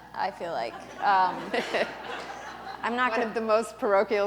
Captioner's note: laughter